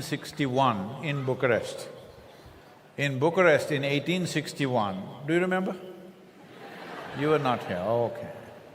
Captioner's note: few laugh